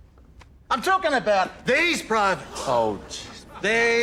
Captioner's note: gallery gasps; laughter